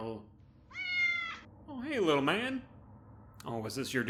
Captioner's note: meow